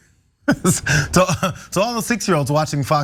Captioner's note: laugh